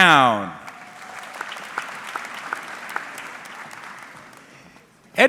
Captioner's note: audience clapping